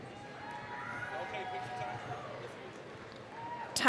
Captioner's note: applause, cheering